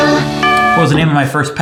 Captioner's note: bell rings